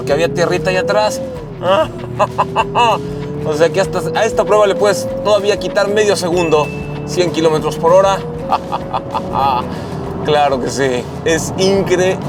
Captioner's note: laughter